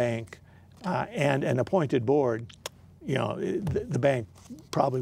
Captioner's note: clicking